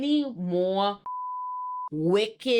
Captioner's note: beep